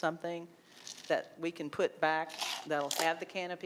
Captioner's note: ice cubes rattling